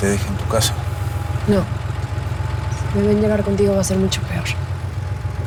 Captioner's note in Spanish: Sonido al abrir y cerrar las puertas del auto